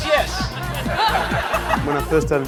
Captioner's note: audience laughing